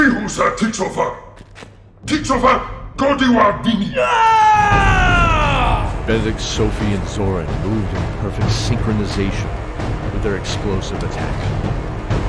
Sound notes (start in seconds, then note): 3.9 angry shout; 3.9 battle cry